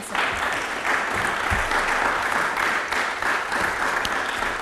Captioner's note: applause